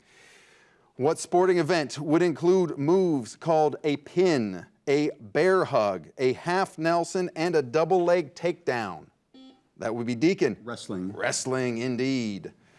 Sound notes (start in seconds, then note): 9.3 buzzer buzzes